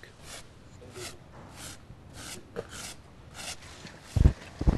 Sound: shovel scraping

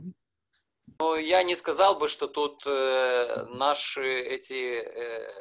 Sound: speaking foreign language

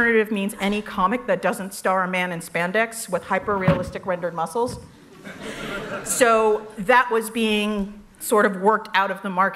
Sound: laughter

